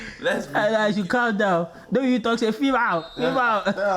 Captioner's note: laughter